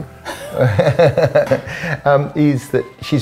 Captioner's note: laughing